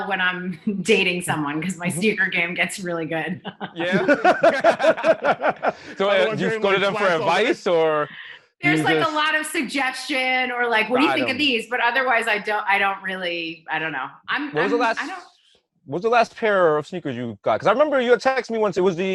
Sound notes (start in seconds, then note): 3.2 laughter